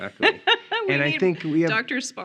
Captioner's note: laughing